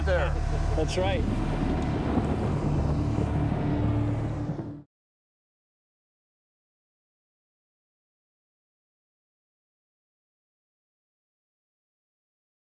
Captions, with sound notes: That's right. [thunder]